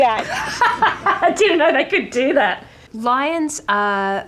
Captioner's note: laughs